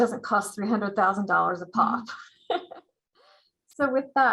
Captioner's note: laughs